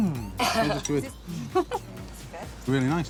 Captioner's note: giggles